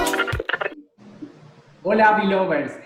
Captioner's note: in Spanish